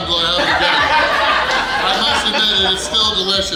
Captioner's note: hahaha